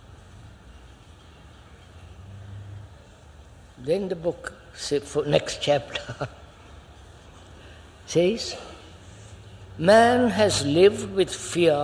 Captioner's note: laughs